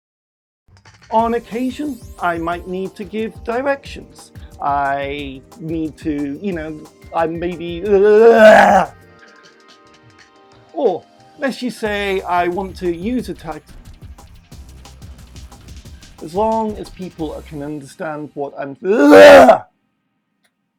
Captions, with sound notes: On occasion, I might need to give directions. I need to, you know, I maybe *errr*. Or, let's just say I want to use a type.... As long as people I can understand what I'm *Bleurgh!!!*